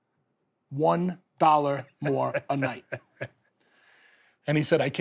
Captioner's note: Stone Cold laughs